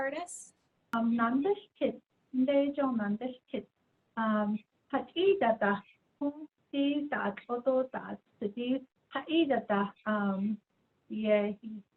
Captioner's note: speaking in Diné